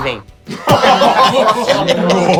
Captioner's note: risos